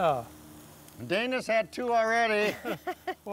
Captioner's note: all laughing